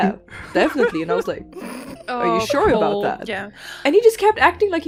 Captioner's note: laughter